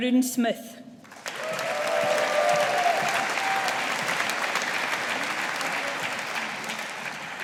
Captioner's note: audience applauding